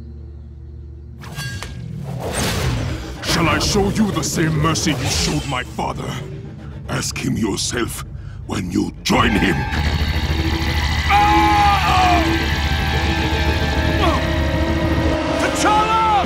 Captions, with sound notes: Shall I show you the same mercy you showed my father? Ask him yourself, when you join him. [SOUND WAVES] [YELLS] T'Challa!